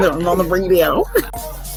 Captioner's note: chuckles